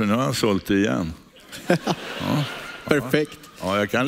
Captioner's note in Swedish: publiken skrattar